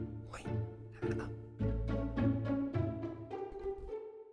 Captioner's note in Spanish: Susurrando